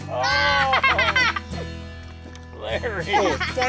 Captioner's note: all exclaim